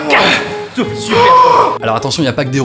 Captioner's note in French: aaaaaah